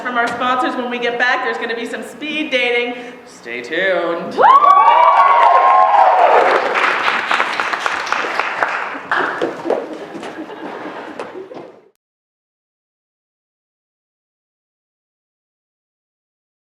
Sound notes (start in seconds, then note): 4.4 cheering; 5.1 applause